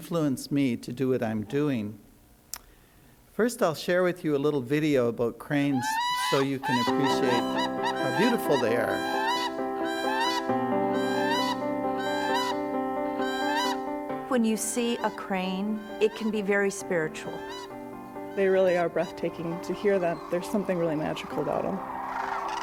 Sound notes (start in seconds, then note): 8.5 crane squawking; 9.4 rhythmic piano music